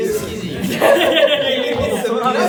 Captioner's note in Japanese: 笑い声